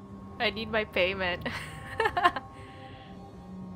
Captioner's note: laughs